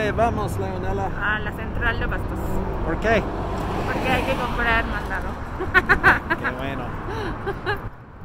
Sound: laughing

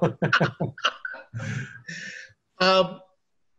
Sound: both laughing

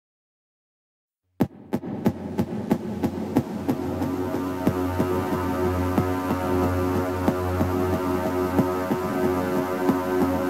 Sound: sound of running in fear

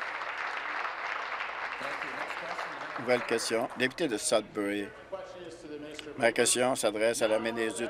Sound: applause

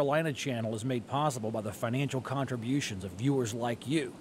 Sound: voiceover

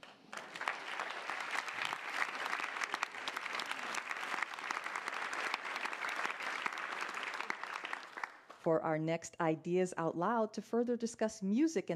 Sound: applause

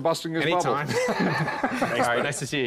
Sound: laughs

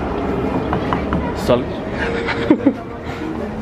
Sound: laughs

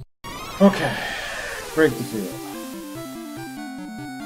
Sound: sighing

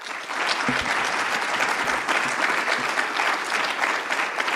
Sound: audience applauds

